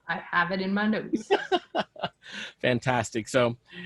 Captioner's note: laughs loudly